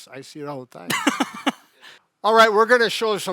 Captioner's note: laughs